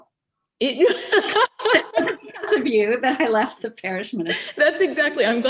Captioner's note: laughing